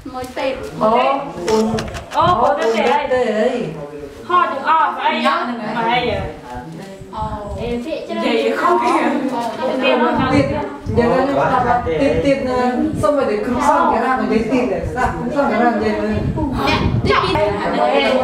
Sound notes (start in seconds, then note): 4.7 chattering